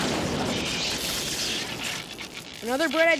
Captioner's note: lightning strike